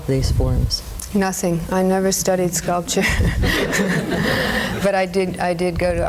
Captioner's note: laughs